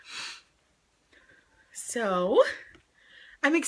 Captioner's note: sniffs